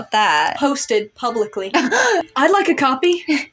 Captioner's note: chortle